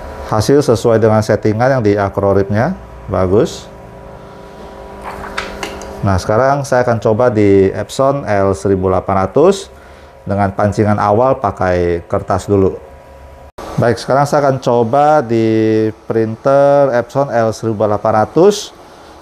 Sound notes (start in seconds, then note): 4.2 PET film noise